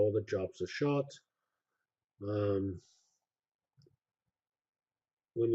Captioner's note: pause